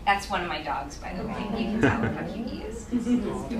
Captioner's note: audience responds